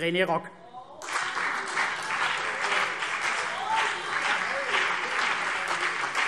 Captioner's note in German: Beifall CDU und BÜNDNIS 90/DIE GRÜNEN - Zurufe